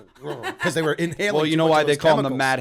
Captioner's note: laughter